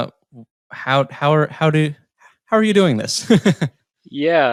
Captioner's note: laughs